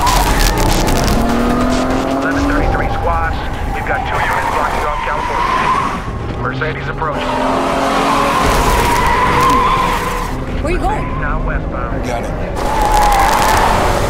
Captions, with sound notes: - 1133 squad, we've got two units on California. Mercedes approaching. [tires squealing] - Where are you going? - Mercedes now westbound. - I got him.